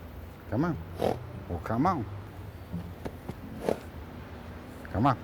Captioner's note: horse chuffing; horse chuffing